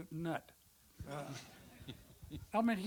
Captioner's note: audience laughter